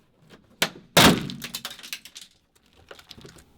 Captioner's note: clatters